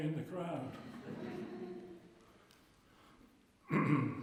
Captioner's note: laughter